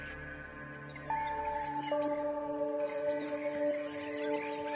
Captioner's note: birds chirping